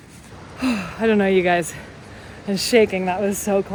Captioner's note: sighs